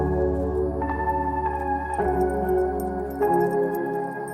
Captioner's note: dog tags jingling